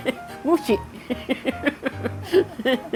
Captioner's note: laughs